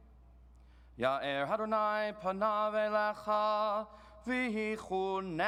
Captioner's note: chants in foreign language